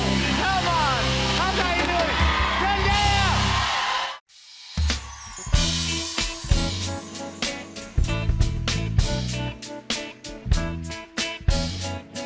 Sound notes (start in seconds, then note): 2.8 cheers and applause